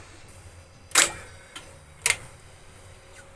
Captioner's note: clicking